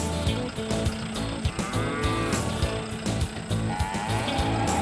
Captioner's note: cattle mooing